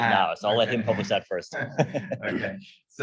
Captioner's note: laughs